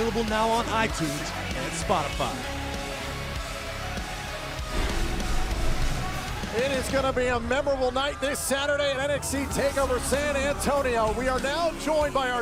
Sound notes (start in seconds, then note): none